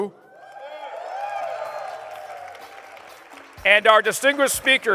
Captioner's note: applause